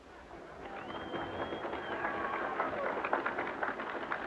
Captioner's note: audience cheering